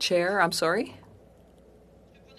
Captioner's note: speaking french